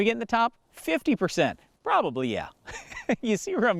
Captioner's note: laughs